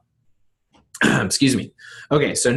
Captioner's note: clearing throat